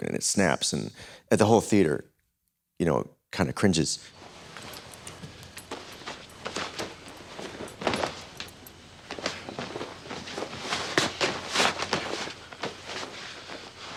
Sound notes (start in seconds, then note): 4.1 rustling